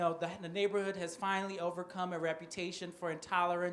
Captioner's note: none